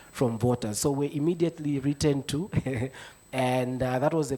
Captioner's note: chuckles